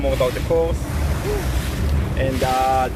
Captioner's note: water whooshing